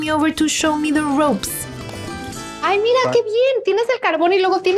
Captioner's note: conversing in Spanish